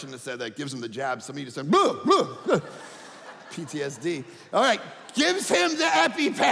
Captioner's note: audience laughing